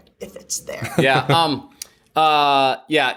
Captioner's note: laughter